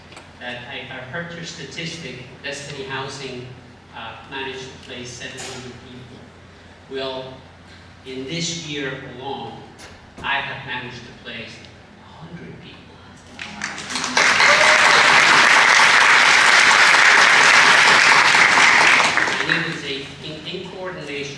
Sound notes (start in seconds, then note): 13.3 applause